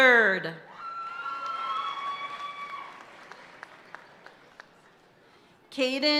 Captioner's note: audience cheering and applauding continues